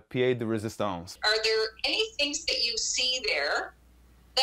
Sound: foreign language

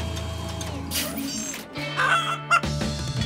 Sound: clucking

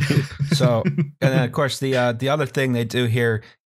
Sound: chuckles

